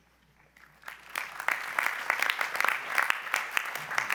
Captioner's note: applause